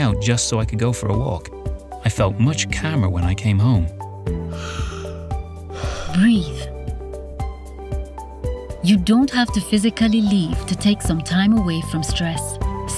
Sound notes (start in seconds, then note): 4.4 exhaling; 4.4 inhaling